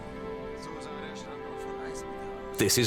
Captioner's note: speaking German